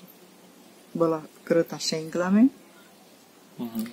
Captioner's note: lathering